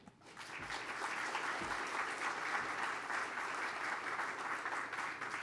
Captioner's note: applause